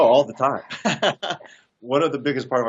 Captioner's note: laughs